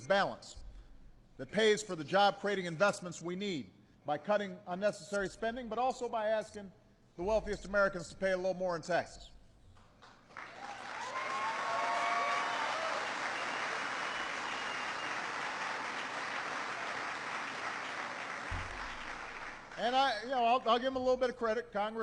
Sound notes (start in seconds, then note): 13.0 applause